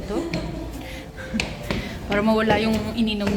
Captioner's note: more laughter